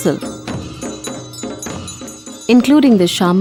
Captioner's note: bells jingling; soft drumming